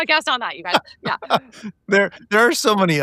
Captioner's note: laughing